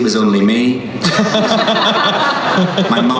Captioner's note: laughing